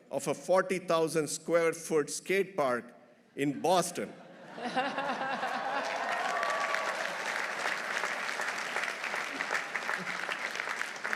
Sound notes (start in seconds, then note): 4.4 everyone laughing; 5.0 audience applauding; 5.2 audience cheering